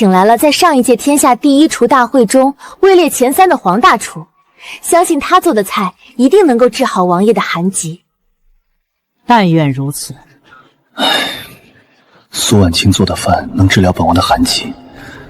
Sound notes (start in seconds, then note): 10.9 sigh